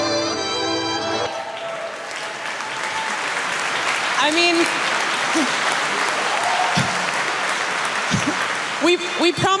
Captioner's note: applause